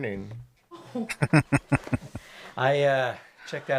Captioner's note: chuckling